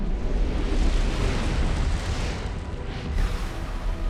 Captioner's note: loud bang